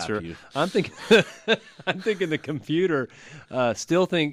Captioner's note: laughs